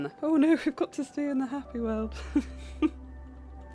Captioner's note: laughs